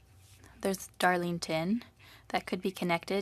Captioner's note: speaking French